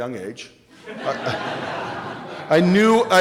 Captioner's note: laughing